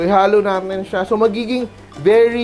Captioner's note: sizzle